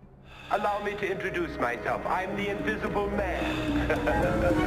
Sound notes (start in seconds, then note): 3.1 laughs